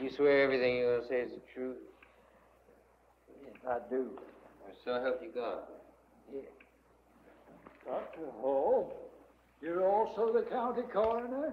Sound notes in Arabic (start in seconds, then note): none